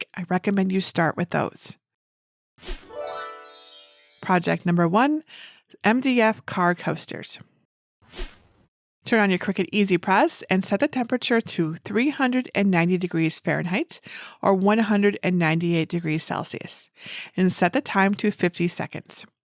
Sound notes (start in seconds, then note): 2.8 bells twinkle